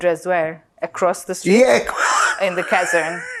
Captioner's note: laughing